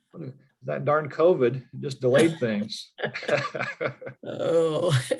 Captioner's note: chuckling